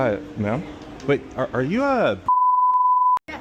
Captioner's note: beep